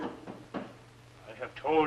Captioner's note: knocking on door